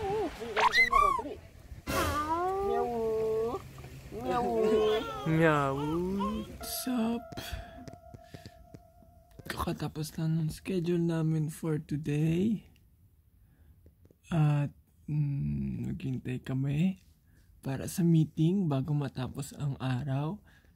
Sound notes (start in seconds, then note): 3.7 meawoo sounds~~~